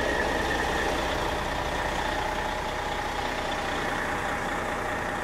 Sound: diesel engine idling

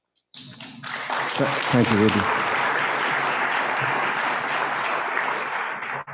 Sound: audience clapping

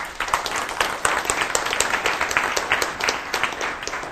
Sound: applause

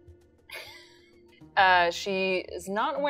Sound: chuckles

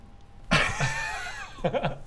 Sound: mutinous laughter

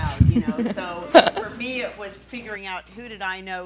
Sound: laughing

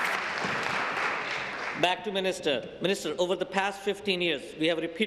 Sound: applause

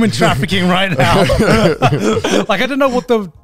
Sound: all laughing

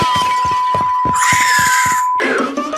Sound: The Easter Bunny Screams!

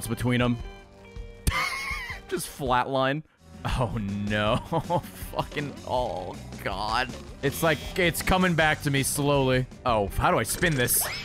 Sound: laughs

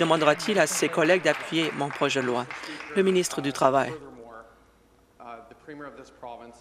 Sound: some Applause

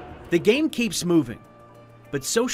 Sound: sounds of players cheering

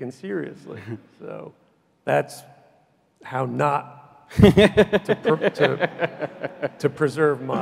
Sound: laughs loudly

